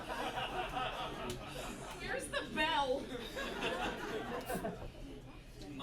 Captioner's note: laughter